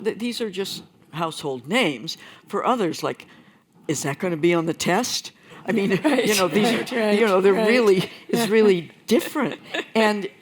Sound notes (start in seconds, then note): 5.8 laughter